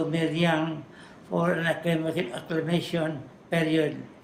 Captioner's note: foreign language